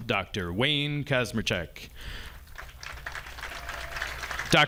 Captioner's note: audience applauding